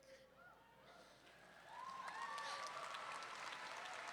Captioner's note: audience members whooping; audience clapping and cheering